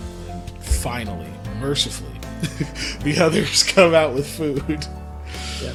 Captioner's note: laughs